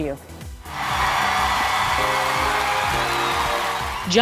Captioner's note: cheers